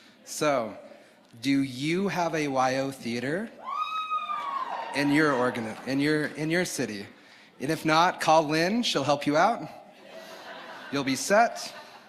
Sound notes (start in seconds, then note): 3.6 audience cheering; 10.0 audience laughing